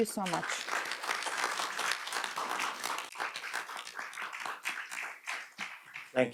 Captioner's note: audience and panelists applaud